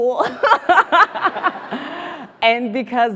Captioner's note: laughs